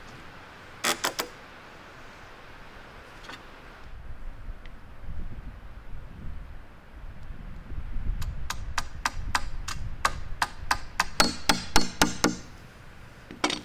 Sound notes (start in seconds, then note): 0.8 wood creaking; 8.4 hammer tapping